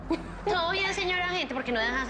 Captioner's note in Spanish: Risas